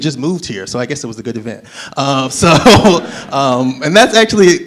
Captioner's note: laughs